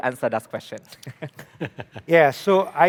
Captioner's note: laughs